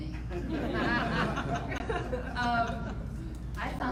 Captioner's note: audience laughing